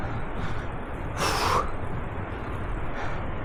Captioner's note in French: Soupir